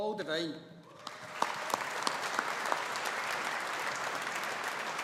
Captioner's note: audience applauding